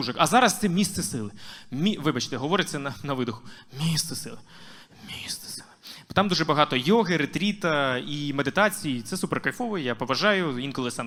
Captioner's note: exhaling